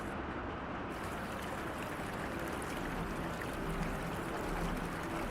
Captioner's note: water gurgling